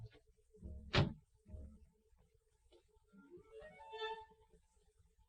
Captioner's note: car door slamming